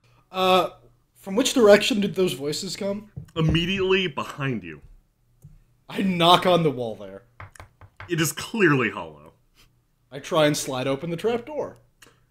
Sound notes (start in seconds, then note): 7.4 knocking sound